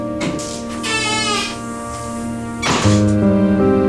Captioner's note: door creaking; soft dramatic music